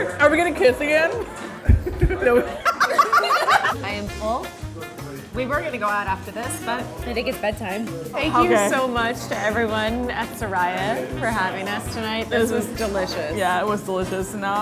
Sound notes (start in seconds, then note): 1.4 laughing